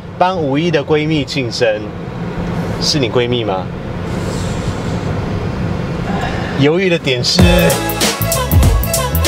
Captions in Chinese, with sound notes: 幫 51 的閨蜜慶生 是你閨蜜嗎？ （吸氣） （嘆氣 ） 猶豫的點是....?